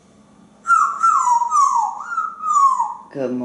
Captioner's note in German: whistling